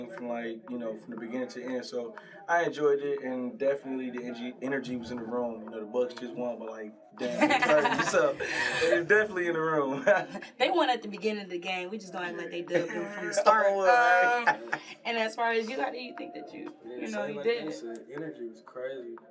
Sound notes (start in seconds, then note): 14.9 laughing